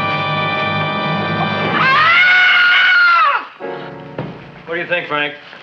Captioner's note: Mrs. Feuchtwanger screams